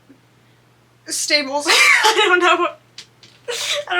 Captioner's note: laughs